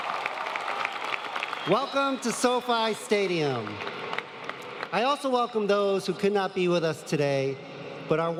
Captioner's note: applause